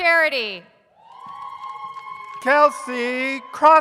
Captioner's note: audience cheers